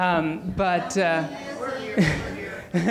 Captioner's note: audience talking; laughs